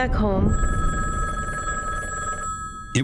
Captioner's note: phone ringing